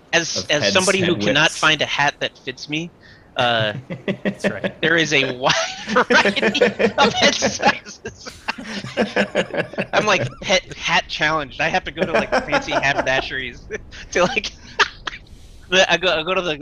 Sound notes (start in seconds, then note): 6.0 laughing; 14.3 laughter